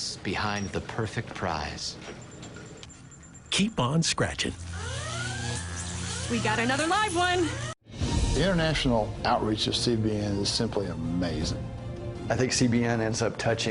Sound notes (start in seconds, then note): 4.7 sirens go off again